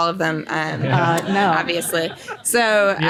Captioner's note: audience laughing